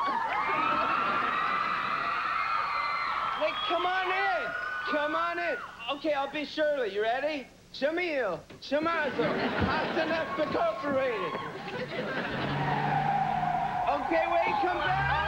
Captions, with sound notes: COME ON IN! COME ON IN. OK, I'LL BE SHIRLEY. YOU READ SCHLEMIEL, SCHLEMAZEL. HAUSENPFEFFER, INCORPATED. [TIRES SCREECHING, CAR LEAVING] OK, WAIT. COME BACK!